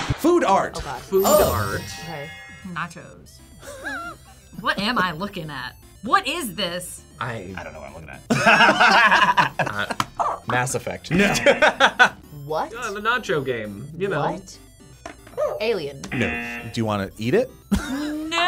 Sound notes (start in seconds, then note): 3.6 React laughs; 8.2 both laugh; 11.1 buzzer barks; 11.1 buzzer; 11.1 laughs; 15.4 buzzer barks; 15.9 buzzer; 17.7 laughs